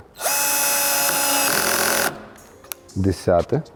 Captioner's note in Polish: dźwięk wkrętarki